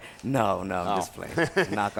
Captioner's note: laugh